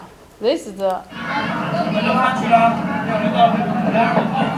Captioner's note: people chattering